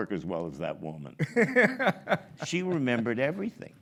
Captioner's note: laughs